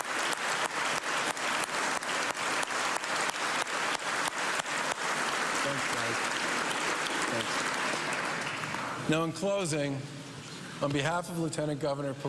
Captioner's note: cheers and applause